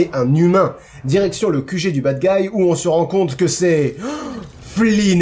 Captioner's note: shocked gasp